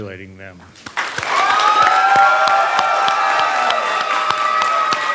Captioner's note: applause